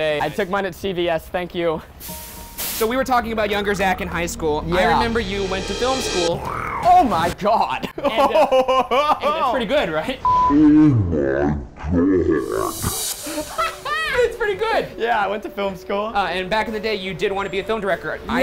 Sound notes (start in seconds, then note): 6.3 snarling; 7.8 laughing; 13.6 laughing